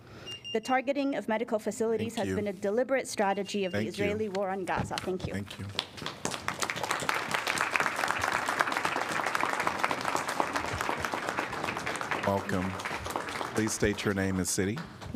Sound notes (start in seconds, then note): 8.2 applause